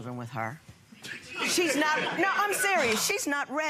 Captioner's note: laughing